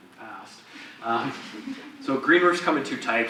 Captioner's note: audience laughs